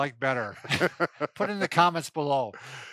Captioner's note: both Laugh